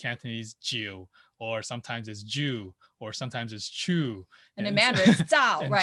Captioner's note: laughs